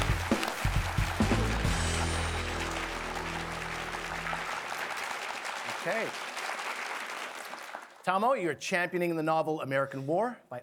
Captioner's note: applause